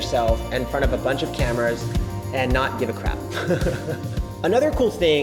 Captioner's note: laughs